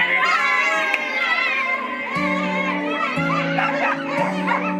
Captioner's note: family screams and celebrates